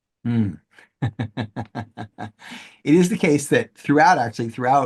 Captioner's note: laughs